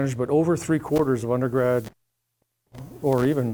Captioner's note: mic cuts out